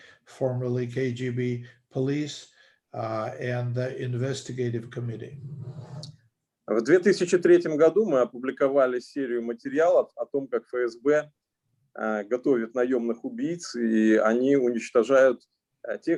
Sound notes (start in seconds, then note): 6.9 speaking Russian language